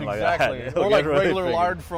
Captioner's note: laughs